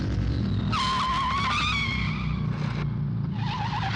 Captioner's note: tyres squealing